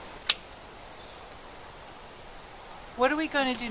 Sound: scissors clipping

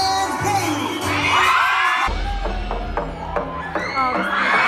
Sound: cheering

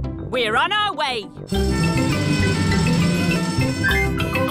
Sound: siren wailing

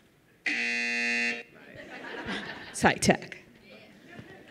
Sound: buzzer

